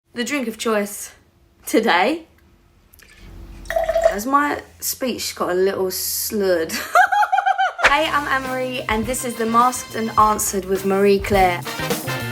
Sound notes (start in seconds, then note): 6.7 giggles; 12.0 jazzy music